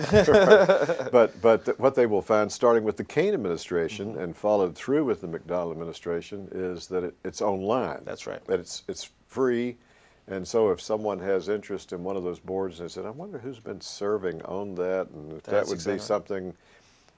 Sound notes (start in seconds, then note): 0.0 laughter